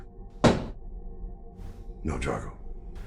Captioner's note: pole thudding